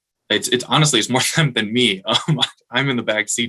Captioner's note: chuckling